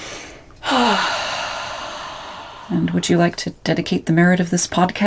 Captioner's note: deep Breath